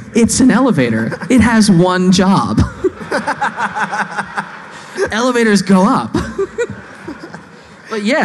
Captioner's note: laughing